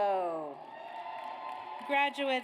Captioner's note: audience cheers